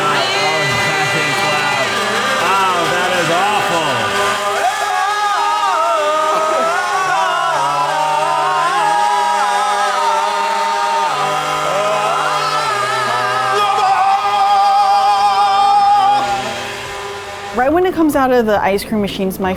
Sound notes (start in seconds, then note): 0.9 screaming; 5.1 all vocalizing over machines whirring